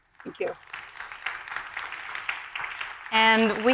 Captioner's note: audience applauding